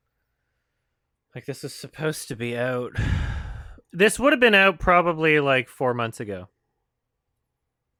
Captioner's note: sighs